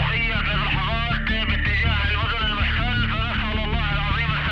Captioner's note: speaking Arabic